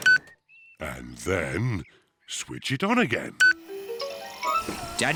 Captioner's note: beeps; beeps